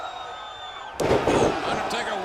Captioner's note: troops cheer; body slams